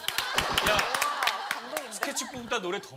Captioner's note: sudden applause